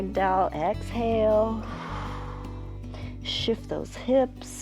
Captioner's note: exhales